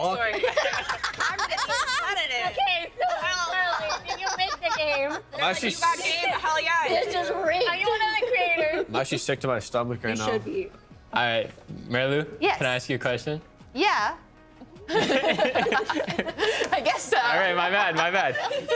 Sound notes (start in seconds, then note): 14.8 laughing